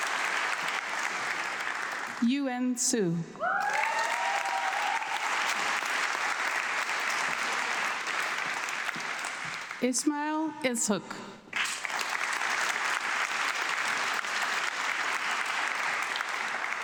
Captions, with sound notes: Yu En Hsu. (audience clapping) Ismael Izok. (audience clapping)